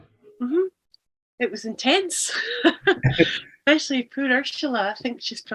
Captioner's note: laughs